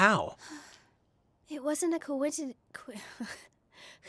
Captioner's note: sigh